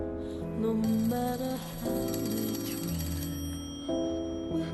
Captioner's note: phone ringing